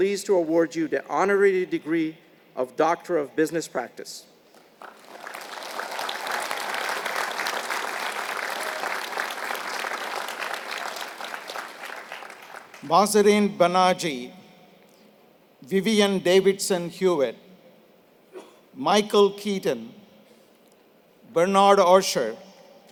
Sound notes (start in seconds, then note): 4.5 applause